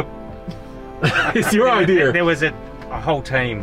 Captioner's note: laughing